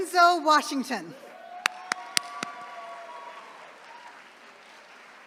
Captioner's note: attendees cheering